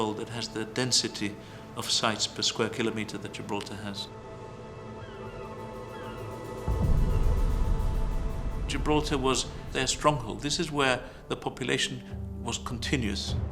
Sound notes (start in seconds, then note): 4.4 seagulls squawking